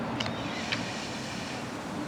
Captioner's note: inhales deeply